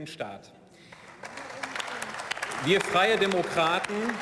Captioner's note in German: Beifall